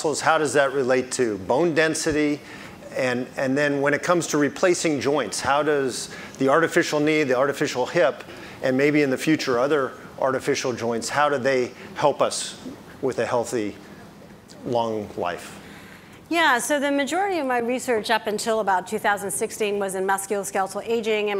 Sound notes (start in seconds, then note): none